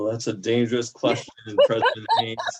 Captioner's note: laughter